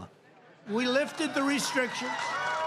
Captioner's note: applause